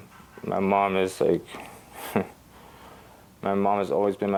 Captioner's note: laughs softly